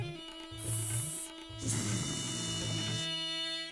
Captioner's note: hissing